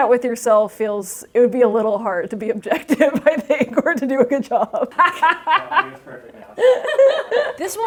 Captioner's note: laughter